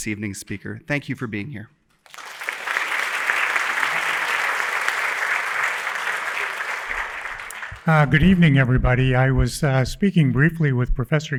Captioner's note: applause